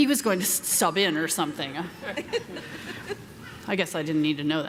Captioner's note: audience laughing